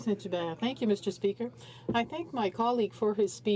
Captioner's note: speaking in french